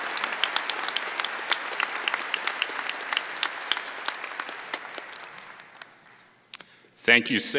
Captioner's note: applause